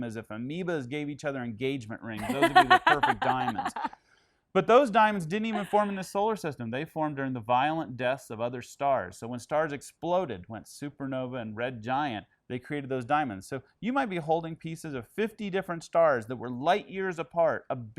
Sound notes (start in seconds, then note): 2.2 laughter drowns out words